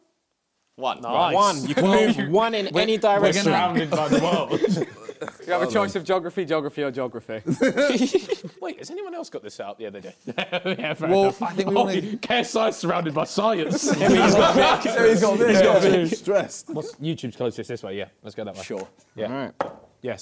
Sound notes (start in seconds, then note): 13.9 both mumbling